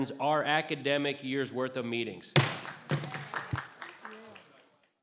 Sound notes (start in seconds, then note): 2.3 gavel bangs; 2.5 applause